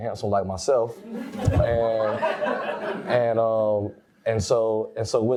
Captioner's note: audience laughs